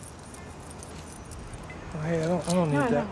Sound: coins jingling

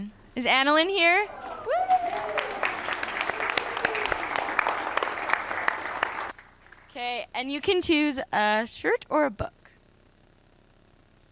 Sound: applause

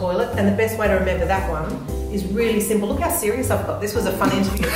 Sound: laughter

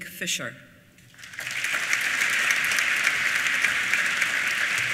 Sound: applause

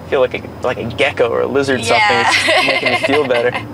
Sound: laughing

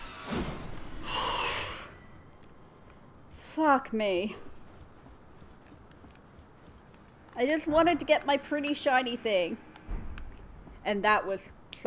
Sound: exhale

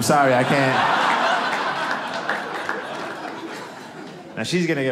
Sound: audience laughing

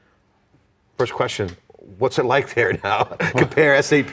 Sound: laughs

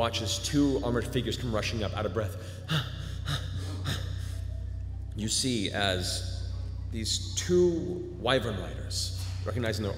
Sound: panting

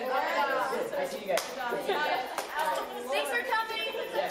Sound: hands slapping

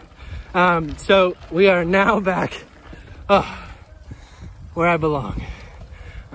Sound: breathes out

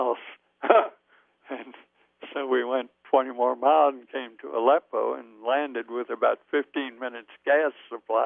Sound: both laugh

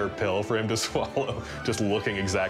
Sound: laughs

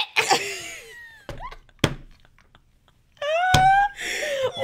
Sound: both laughing

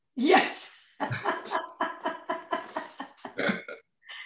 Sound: laughs

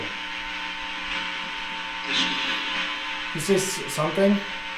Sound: radio noise hissing

